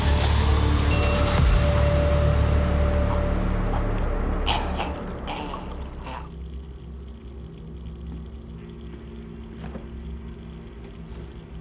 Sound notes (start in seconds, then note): 1.1 chokes; 1.1 water pours onto ground